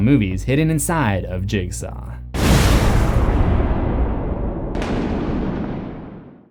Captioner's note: thunder